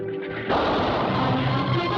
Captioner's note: gunshot